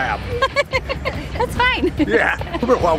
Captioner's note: laughter